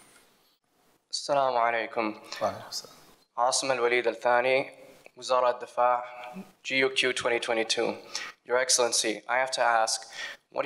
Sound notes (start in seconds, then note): 1.3 foreign language